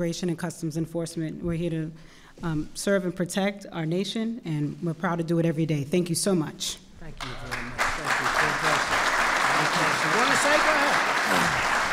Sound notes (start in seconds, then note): 7.2 applause